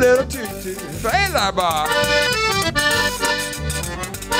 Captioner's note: speaking a French; accordion solo music